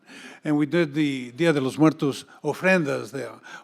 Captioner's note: speaks in Spanish